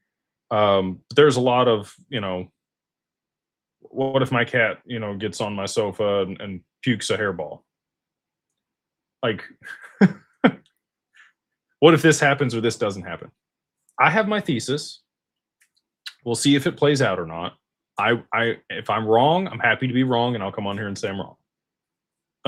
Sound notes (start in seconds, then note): 9.6 laughter